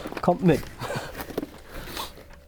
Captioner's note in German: lacht